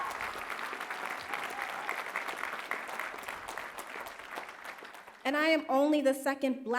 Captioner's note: applause